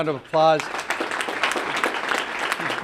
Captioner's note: applause